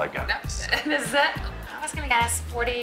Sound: laughs

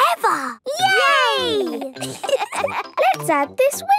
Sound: laughter

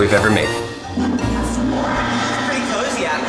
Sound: toilet flushing

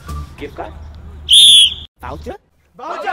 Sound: whistles

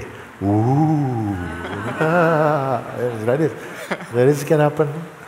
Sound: laughter

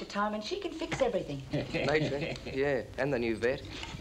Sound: Bartlett chuckling

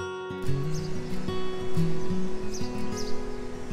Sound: distant waves

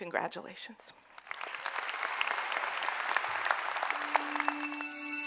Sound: audience clapping; gentle music

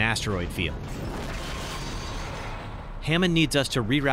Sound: asteroid crashes

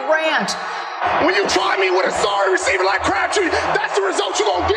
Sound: shouting

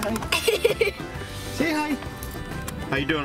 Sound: laughs

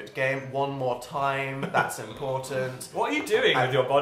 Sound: laughs

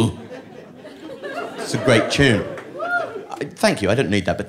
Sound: light cheering

